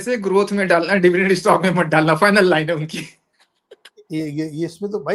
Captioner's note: laughter